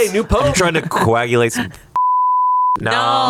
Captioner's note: beep